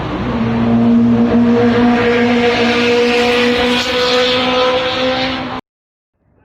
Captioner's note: motorcycle sounds intensify